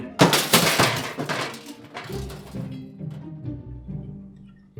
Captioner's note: glass breaking